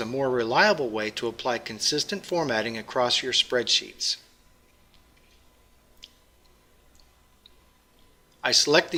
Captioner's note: pause